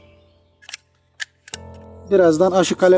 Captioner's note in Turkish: fon müziği ve kuş sesleri; testereyi açarken çıkan tık sesi